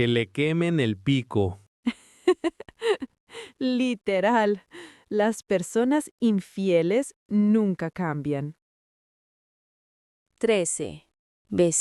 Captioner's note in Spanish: risas